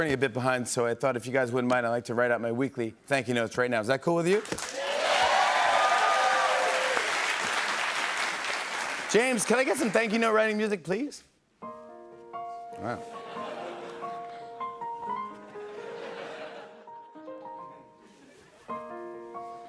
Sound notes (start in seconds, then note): 4.6 cheers and applause; 13.6 laughter